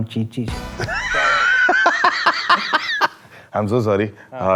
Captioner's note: laughs